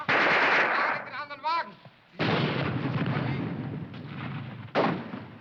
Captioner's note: shouting in foreign language